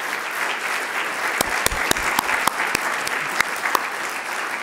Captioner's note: audience applauding